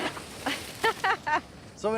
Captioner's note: laughing